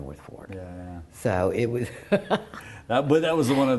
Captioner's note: laughs